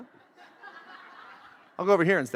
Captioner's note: audience laughs